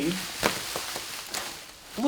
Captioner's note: plastic rustling